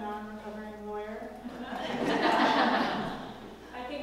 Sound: laugh

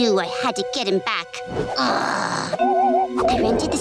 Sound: growling

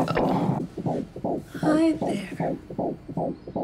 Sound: heart beating

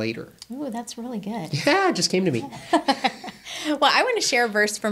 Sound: laughing

